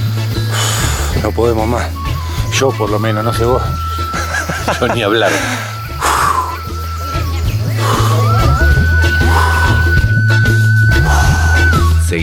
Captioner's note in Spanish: risas